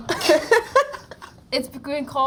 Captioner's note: Tom and Jacob laugh